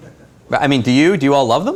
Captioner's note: laughter